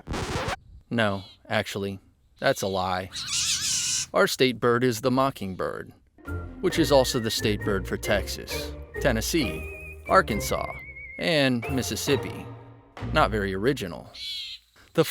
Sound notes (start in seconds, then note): 0.0 record scratches; 3.0 bird screeches